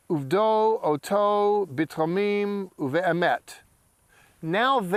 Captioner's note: speaking in Hebrew